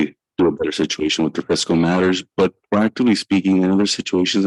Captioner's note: audio echoing